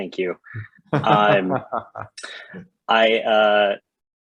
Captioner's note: chair laughing